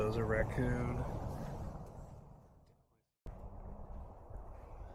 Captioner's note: wind blowing